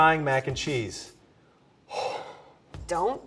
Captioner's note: deep exhale